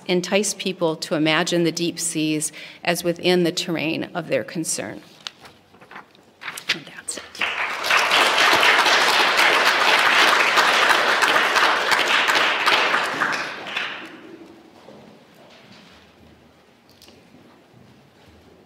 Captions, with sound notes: entice people to imagine the deep seas as within the terrain of their concern. And that's it. [APPLAUSE]